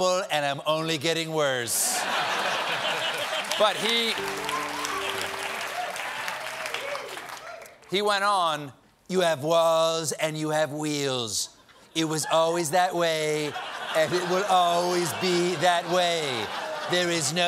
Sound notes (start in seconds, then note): 4.1 piano riff; 4.8 laughter